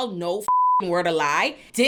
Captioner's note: beep